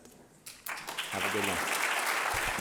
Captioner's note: applause